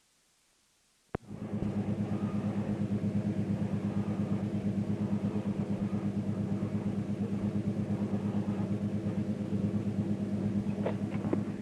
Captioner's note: sound of train moving